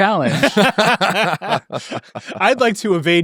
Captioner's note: attendees laughing